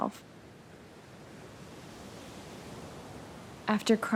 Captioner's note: water crashing against the sand